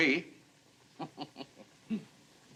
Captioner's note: chuckles